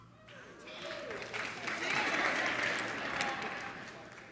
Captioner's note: audience applauds